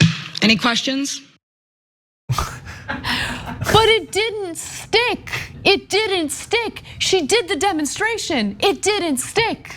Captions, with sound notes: Any questions? [LAUGH] >> But it didn't stick. It didn't stick. She did the demonstration, it didn't stick.